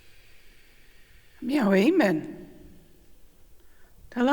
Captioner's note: In Mi’kmaq